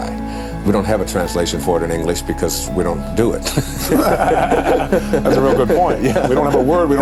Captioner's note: laughter